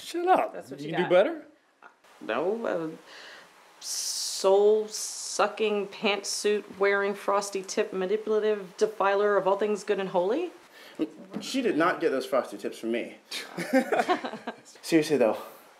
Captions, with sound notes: Shut up. Think you can do better? No... soul sucking, pantsuit wearing, frosty tip, manipulative defiler of all things good and holy? She did not get those frosted tips from me. [laughter] Seriously, though,